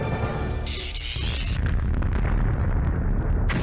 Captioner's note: electricity buzzing